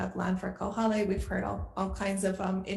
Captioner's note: foreign language